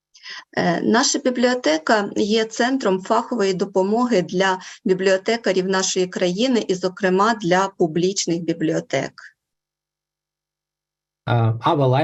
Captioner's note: foreign Language Spoken